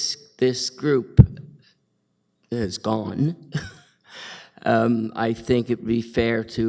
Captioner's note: chuckles